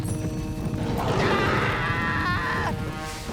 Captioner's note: screaming